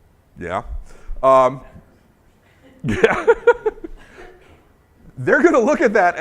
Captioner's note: laughing